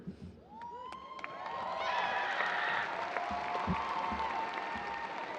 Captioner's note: audience cheers and applause